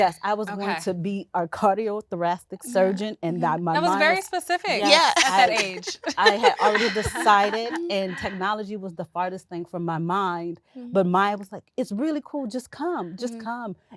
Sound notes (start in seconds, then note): 4.6 laughing